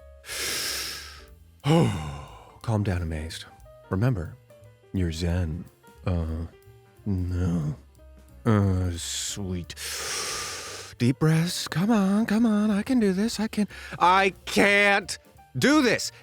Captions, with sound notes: [inhales and exhales deeply] Calm down Amazed, remember you’re zen… Oh… No. Oh sweet [inhales deeply] – Deep breaths. Come on. Come on. I can do this. I can… I CAN’T DO THIS.